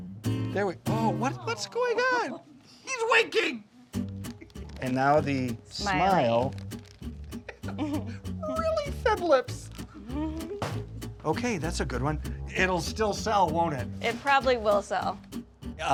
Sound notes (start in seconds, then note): 7.4 laughs; 10.0 laughs